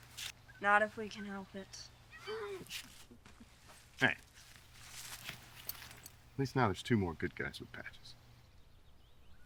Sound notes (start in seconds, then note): 2.1 Jacob laughs